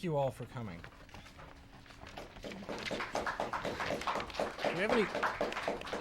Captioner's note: audience clapping